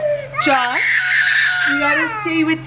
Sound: screaming

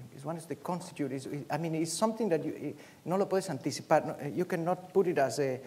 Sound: speaking spanish

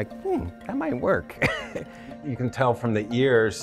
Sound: laughs

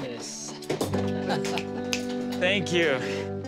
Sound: laughs

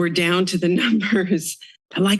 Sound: laughs

